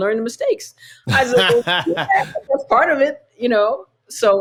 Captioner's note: laughter